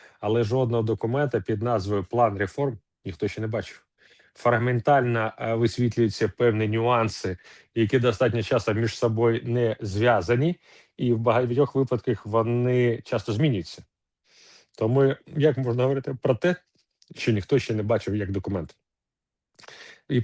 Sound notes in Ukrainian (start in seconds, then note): 14.3 сопіння